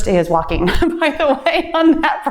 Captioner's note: laughs